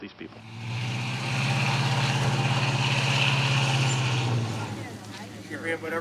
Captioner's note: truck revving